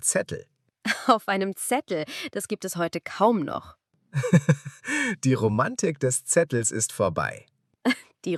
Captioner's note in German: gelächter